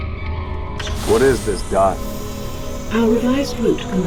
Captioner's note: door hisses